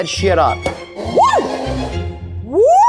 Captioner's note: exclaims